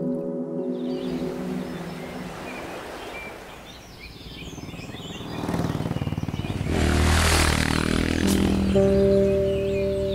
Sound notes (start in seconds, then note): 0.2 birdsong; 3.9 motorbikes